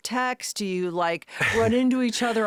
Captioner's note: Josh laughing